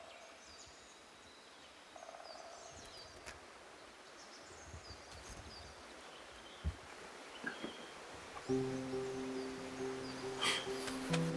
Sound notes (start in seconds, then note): 3.0 chirping continues; 8.4 delicate music